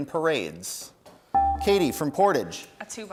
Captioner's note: bell rings